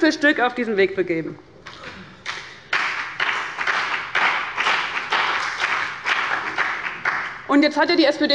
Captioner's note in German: Beifall bei dem BÜNDNIS 90/DIE GRÜNEN und der CDU